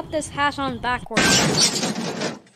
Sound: crash

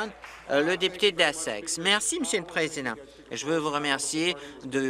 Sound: applause

